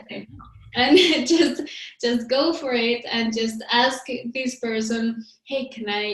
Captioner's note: laughs